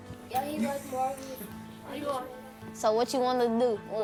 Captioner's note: kid jabbers